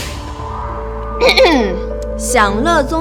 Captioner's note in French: Tousse